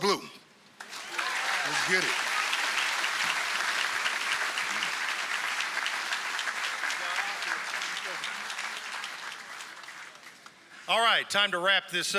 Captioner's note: applause